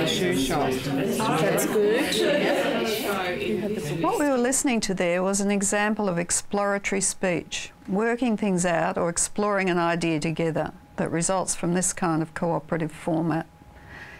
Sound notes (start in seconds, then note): 0.0 audience chatter